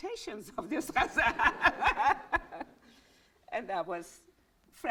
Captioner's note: laughs